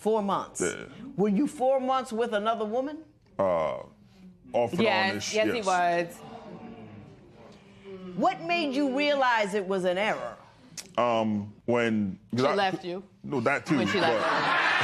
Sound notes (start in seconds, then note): 5.0 spectators murmur